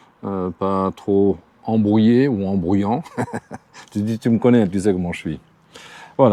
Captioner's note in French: rires